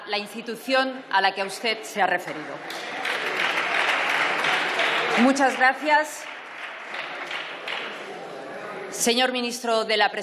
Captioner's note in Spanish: Aplausos